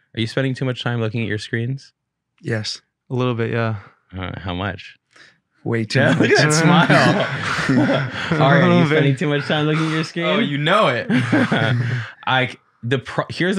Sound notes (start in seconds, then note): 5.9 group laughing; 11.4 laughing